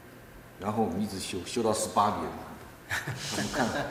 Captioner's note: laugh